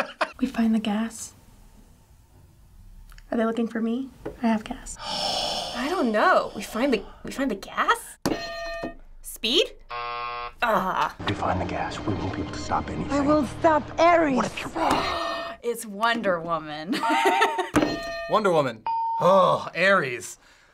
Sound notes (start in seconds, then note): 0.0 chuckling; 4.9 sighing; 8.3 hitting bell; 9.8 buzzer; 14.8 gasping; 17.8 ding; 17.8 hitting bell